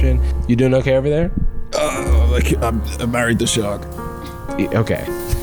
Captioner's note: groans